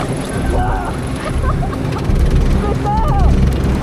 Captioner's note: she laughs